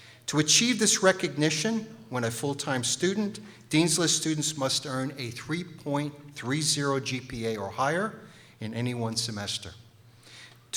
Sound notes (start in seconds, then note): none